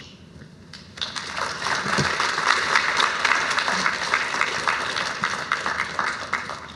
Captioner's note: applause